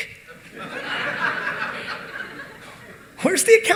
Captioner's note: audience laughing